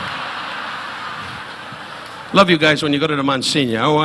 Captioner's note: audience laughing